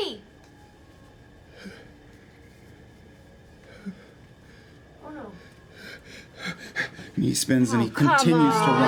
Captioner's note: breathes heavily